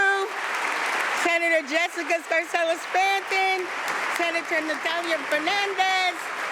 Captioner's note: applause